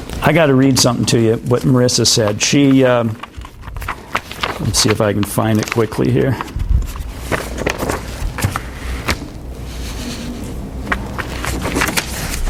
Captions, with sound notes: I gotta read somethin' to you, what Marissa said. Let's see if I can find it quickly here. (papers rustle)